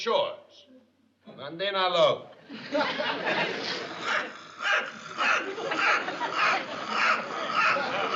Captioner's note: mimics sawing wood; non-english speech